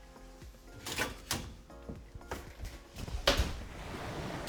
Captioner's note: pan thuds; oven door thuds; water splashes